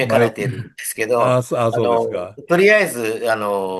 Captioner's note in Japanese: 咳払い